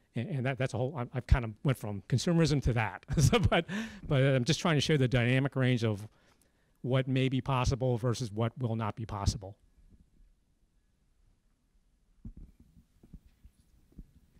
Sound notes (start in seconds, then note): 3.1 laugh